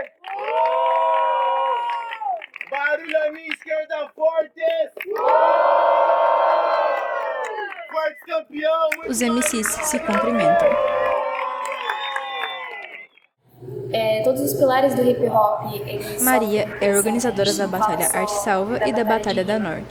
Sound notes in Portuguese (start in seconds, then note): 0.1 Plateia: palmas e assovios; 5.4 Plateia: palmas e assovios